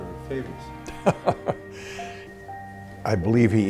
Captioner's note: laughing